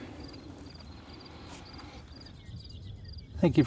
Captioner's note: insect chirping